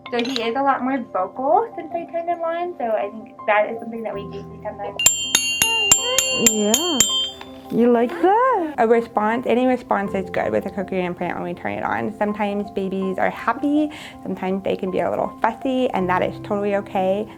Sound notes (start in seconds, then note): 8.2 sound of bells